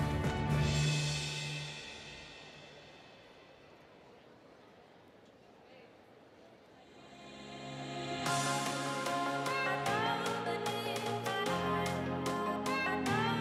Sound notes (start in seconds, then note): 0.7 air whooshing; 5.8 audience chattering; 6.9 electronic music